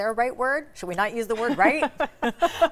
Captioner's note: participants laugh